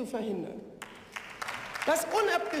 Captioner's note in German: Beifall